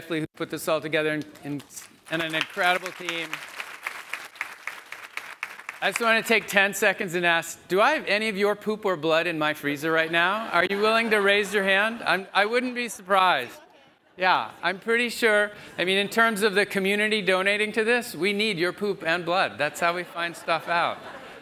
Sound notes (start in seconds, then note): 3.5 audience clapping